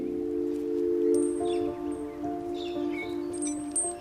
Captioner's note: birdsong; tranquil music